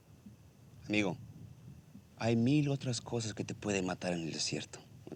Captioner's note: speaking spanish